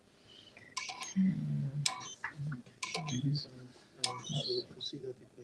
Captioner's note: beeping